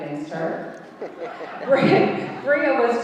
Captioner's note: audience laughing